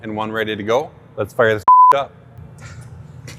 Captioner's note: beep